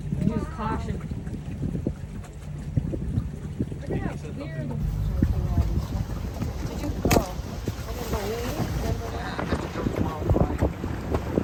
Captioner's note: travelers chatter